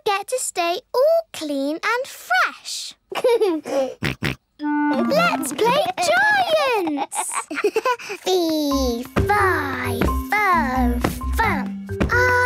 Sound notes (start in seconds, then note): 3.2 giggles, snorts; 6.6 giggles